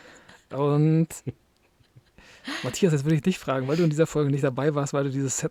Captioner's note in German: gelächter